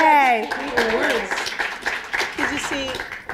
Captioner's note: applause